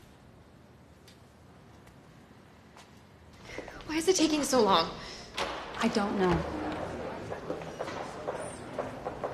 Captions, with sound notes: Why is it taking so long? - I don't know. - (Door opening) (Chattering)